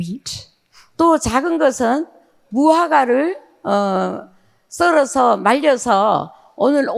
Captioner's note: speaking in foreign language